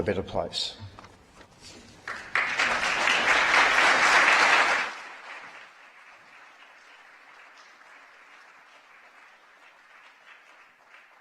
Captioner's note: applause